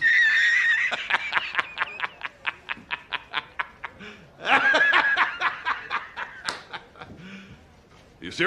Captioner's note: laughing